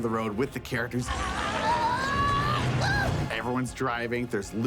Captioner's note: screaming